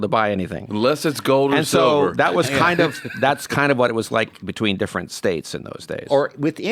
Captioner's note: laughs